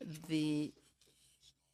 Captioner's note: speaking in french